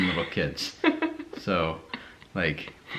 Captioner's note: giggles